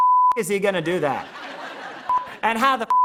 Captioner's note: laughter